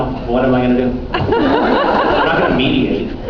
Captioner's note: laughs